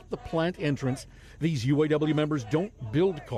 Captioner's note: chanting